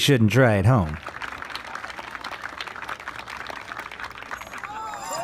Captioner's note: crowd clapping